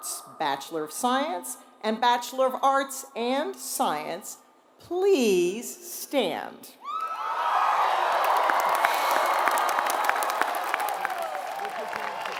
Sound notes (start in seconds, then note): 7.8 applause